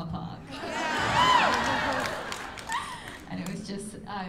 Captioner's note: laughter